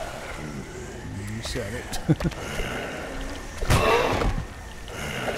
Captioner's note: chuckle